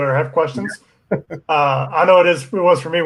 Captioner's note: laughs